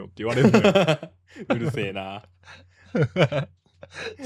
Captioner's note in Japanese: 笑い